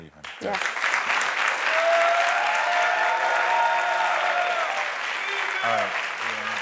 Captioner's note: audience applauds